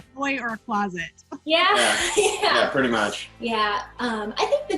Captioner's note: laughs